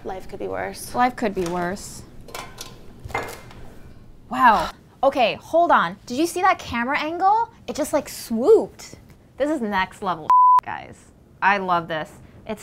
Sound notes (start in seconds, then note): 2.1 utensils clanging; 10.3 beep